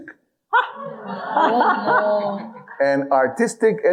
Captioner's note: audience laughing